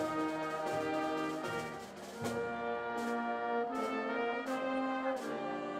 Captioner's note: none